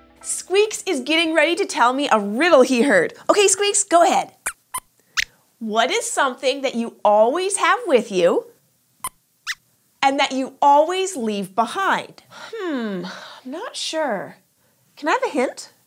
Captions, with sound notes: Squeaks is getting ready to tell me a riddle he heard! Okay, Squeaks, go ahead! [Squeaks squeaks] What is something that you always have with you… [Squeaks squeaks] ...and that you always leave behind? Hmmm. I’m not sure. Can I have a hint?